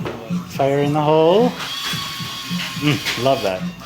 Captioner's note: machine drills